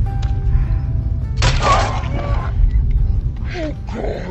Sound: silenced gunshot

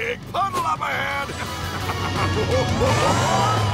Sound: laughing

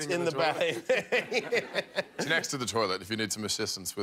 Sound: laughter

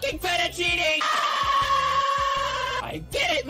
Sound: agonized scream

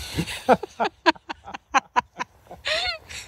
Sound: loud laughter

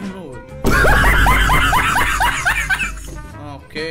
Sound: in-video laughter

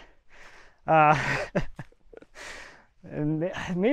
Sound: laughing

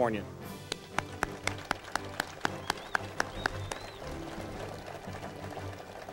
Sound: audience and speaker applauds

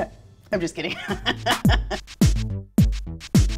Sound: laughs

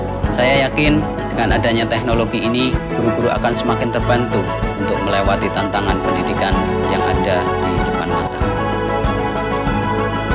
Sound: non-english speech

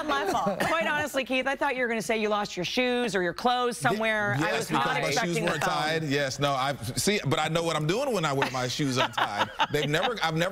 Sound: laughter

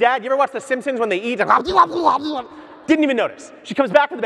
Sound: gurgles

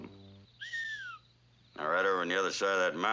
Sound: whistles

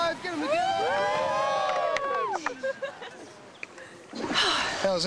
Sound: cheers and laughs

